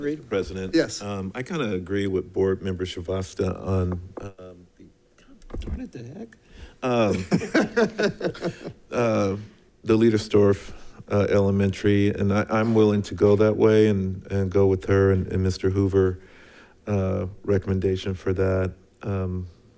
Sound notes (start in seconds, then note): 6.9 chuckling